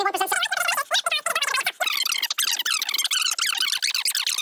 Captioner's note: voice squeaking